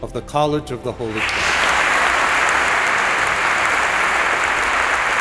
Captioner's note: audience applauds